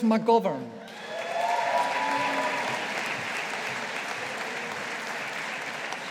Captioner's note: audience applauding